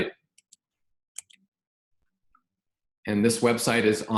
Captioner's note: mouse clicks